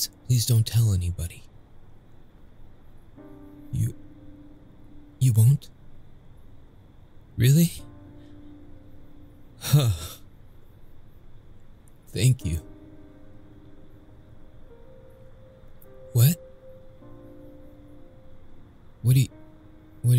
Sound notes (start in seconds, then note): 9.6 sigh